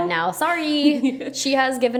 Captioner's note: laughs